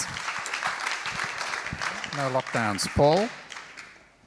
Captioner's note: crowd applauds